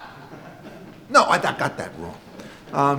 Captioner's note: audience laughs